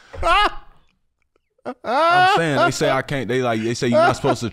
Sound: laughs

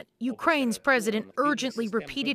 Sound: speaking alternate language

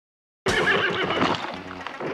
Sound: horse whinnies

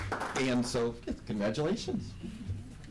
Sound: applause

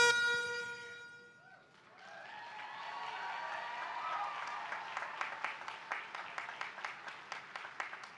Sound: applause

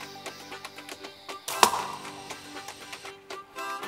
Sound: loud Crack in Woods

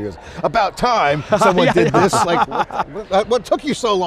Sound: laughs

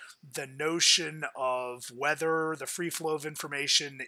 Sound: none

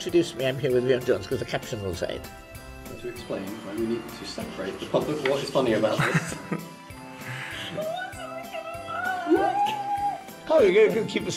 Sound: laughter

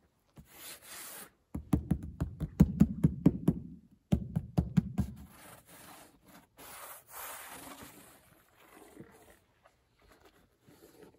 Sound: rubbing over coarse canvas fabric and hollow tapping

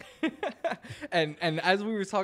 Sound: laughs

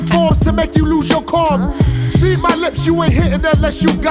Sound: person moans

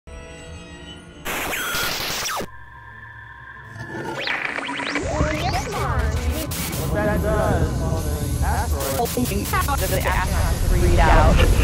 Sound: sound Effects

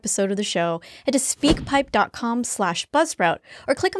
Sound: air whooshing

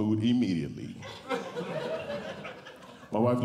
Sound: audience Laughing

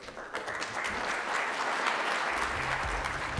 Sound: applause

